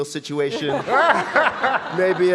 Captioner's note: audience laughing